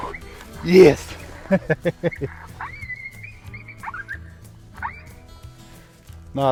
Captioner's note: laughing